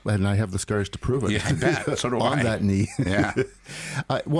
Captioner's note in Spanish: risas